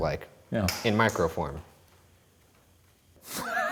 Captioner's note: object hits floor; laughing